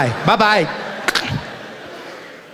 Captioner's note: hanging up the phone